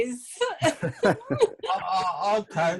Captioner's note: laughing